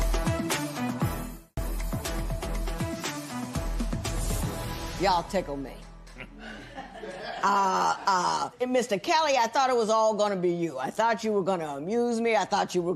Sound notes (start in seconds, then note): 6.1 laughter